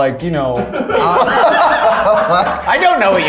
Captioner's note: all laughing